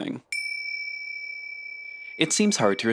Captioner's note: ding